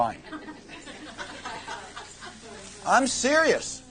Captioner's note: laughter